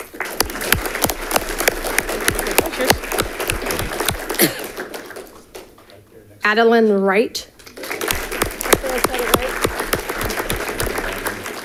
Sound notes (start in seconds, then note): 0.0 audience clapping; 7.6 audience clapping